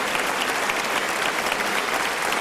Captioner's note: applause